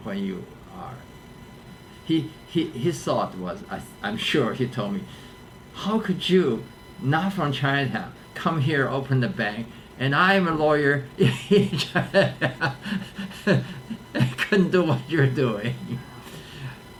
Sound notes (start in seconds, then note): 11.2 laughs